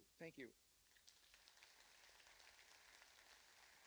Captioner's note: applause